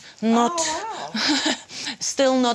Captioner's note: laughs